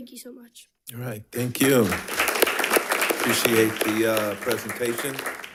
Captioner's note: audience clapping